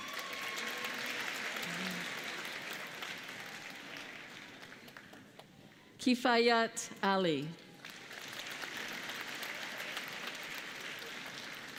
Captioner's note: applause